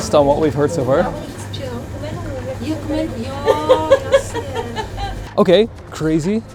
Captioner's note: store owner and customers speaking in foreign language